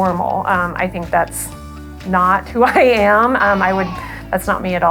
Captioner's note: laughs